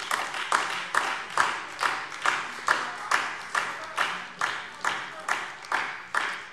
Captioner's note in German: Beifall DIE LINKE, SPD und Freie Demokraten